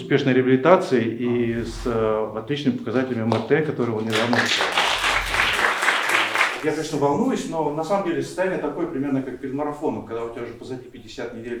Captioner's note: applause